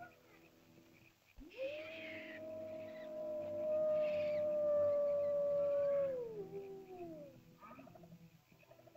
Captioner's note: animal howls; small animal screeches